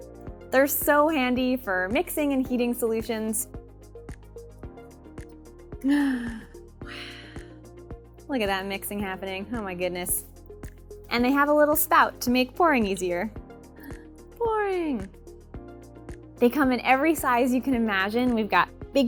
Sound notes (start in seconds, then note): 5.8 sigh - powder mixing into water; 5.8 gasp - adding powder to beaker